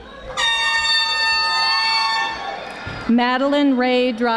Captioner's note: air horn blaring